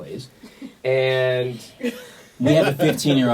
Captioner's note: laughs